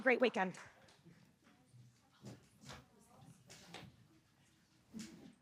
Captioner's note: chatter